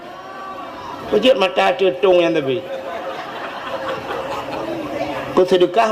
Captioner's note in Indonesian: tertawa